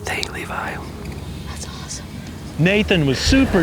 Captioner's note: whispering